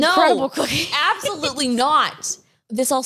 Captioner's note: laughs